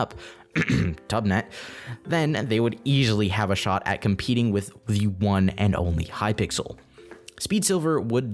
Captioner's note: cough cough Tubnet